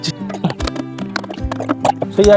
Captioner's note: sound of pipes being fitted